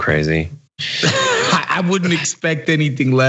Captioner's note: laugh